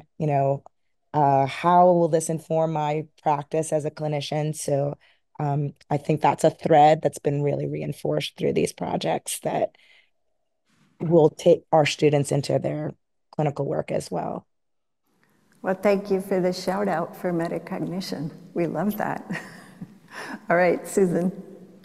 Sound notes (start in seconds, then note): 19.3 chuckles